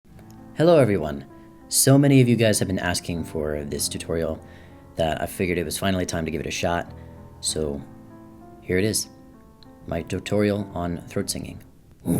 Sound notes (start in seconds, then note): 4.4 inhale